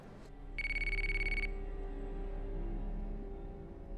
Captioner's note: phone ringing; brooding music